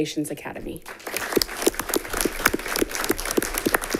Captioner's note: all clapping